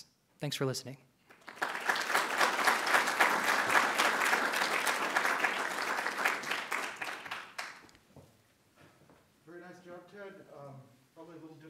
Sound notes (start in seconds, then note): 1.2 audience claps